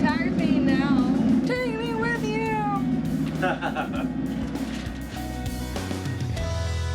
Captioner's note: laughing